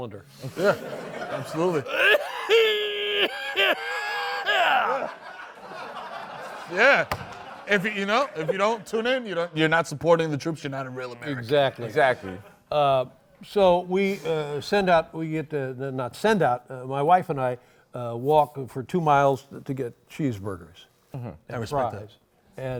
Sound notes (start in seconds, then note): 0.5 laughter; 1.8 fake coughing; 4.8 laughter